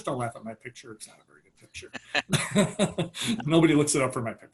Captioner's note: laughs